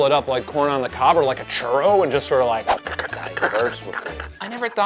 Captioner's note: mimics eating